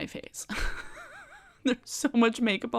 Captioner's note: chuckles